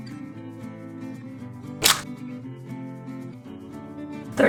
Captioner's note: splash